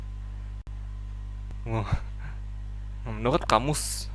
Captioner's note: sigh